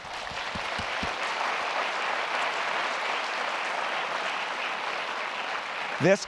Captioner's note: applause